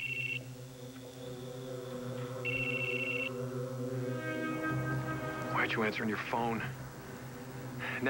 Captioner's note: phone rings